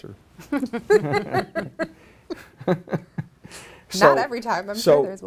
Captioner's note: laughs